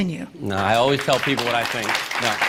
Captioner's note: applause